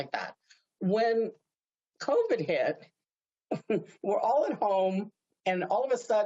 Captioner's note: laughs